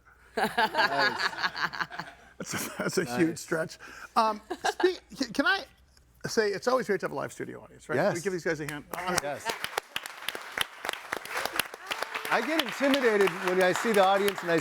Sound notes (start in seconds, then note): 0.4 laughing; 11.2 all clapping